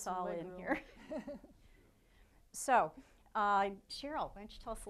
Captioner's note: laughing